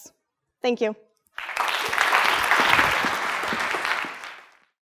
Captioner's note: audience clapping